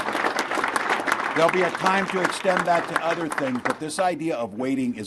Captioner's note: applause